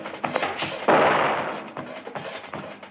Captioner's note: explosion booming